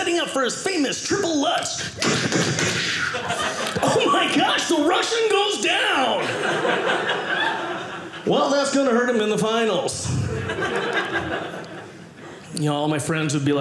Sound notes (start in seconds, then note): 10.0 audience laughing